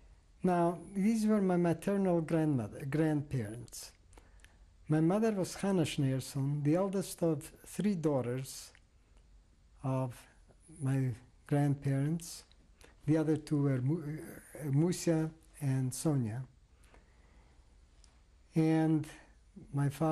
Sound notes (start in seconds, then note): none